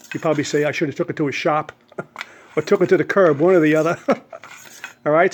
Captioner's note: laughs